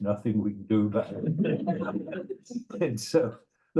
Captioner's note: laughter